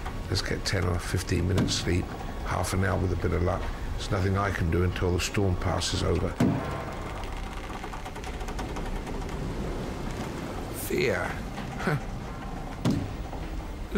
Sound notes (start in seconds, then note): 8.3 boat creaking; 12.1 scoffs